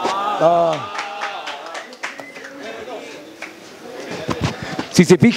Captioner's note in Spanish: Aplausos público